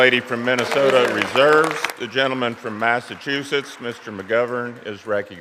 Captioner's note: applause